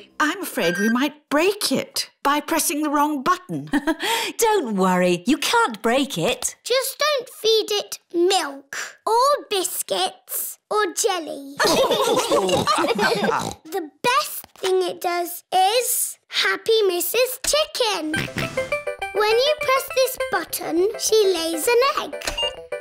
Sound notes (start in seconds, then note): 4.0 laughs; 11.6 laughter